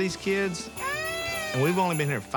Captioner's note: wails